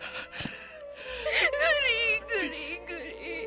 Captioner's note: crying